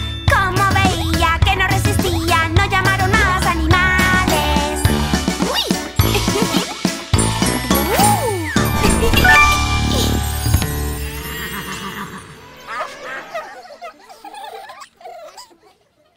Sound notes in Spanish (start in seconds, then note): 7.4 Música Alegre; 12.8 Risas